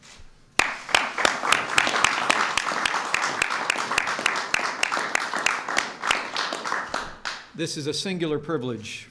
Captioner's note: applause